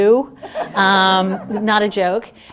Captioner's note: laughter